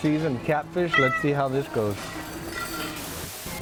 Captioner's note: cat meowing